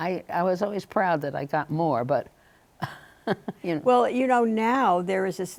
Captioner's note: chuckling